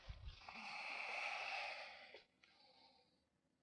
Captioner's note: sighing